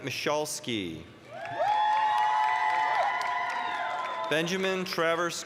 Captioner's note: applause, cheering